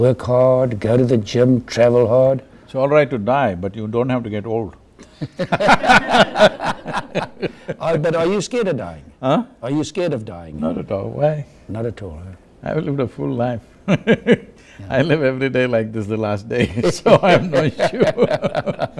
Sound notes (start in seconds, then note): 5.0 laughter; 13.9 laughs; 16.6 both laugh